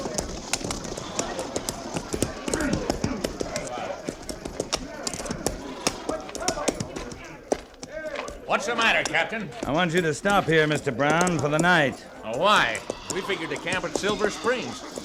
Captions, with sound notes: (footsteps thudding) What's the matter, Captain? I want you to stop here, Mr. Brown, for the night. Why? We figured to camp at Silver Springs.